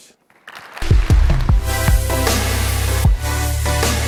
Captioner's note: attendees clapping; bright electronic music